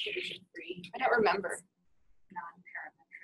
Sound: voiceover

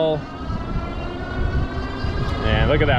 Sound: motor whooshing

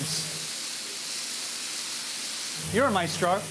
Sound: sizzling

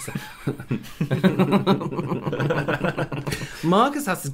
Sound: smileless Laughter

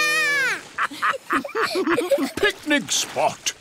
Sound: laughter

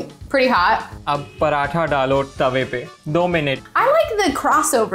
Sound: speaking in Hindi

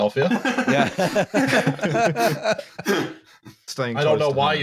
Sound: laughs; laughter

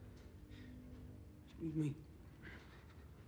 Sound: quietly

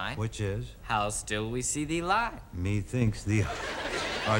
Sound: audience laughing

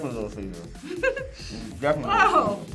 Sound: laughs

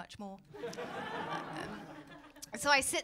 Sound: laughter

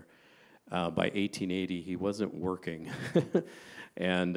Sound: laughing

